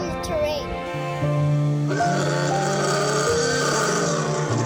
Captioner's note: roaring